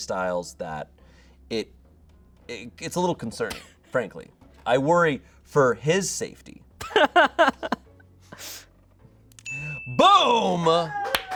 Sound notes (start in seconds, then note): 6.8 laughs; 9.4 bell dings